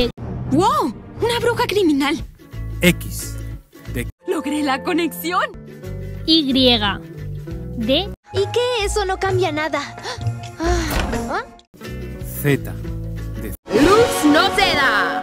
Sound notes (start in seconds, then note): 10.5 sighs in lesbian